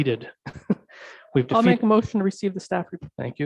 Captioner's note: chuckling